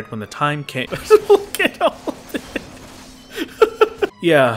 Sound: laughing

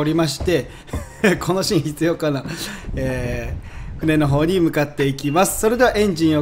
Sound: haha

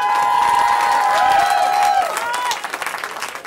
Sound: cheering

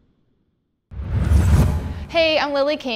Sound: swoosh

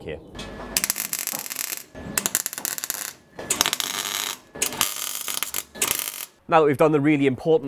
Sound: welding

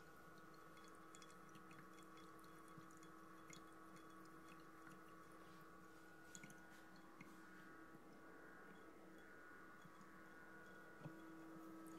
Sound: water Trickling

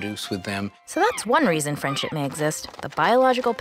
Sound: voiceover

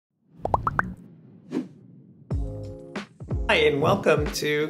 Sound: logo whooshing

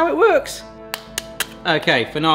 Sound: egg cracking

